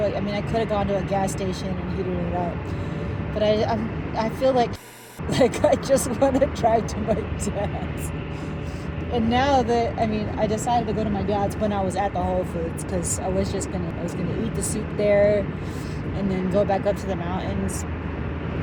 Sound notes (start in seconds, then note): 5.2 laughs